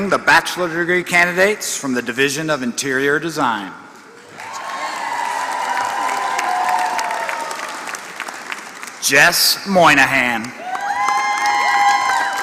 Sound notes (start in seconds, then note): 3.9 applause